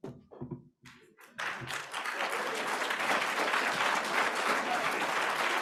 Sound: applause

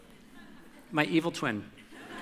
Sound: audience laughter

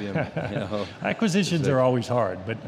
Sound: laughing

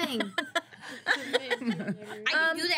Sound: girls laughing

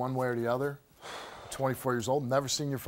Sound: sighs

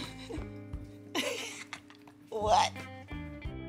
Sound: nervous laugh

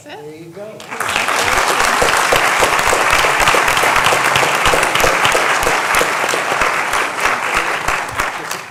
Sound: applause

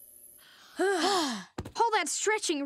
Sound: sighing

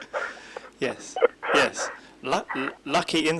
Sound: laughs

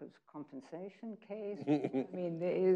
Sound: chuckling

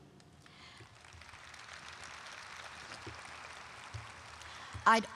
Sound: audience applauding

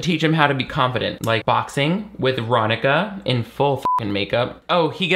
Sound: beep

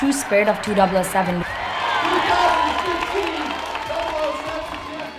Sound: applause

